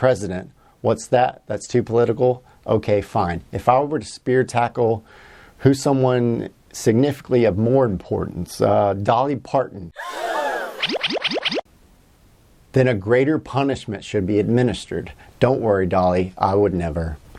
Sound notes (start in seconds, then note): 10.6 gasp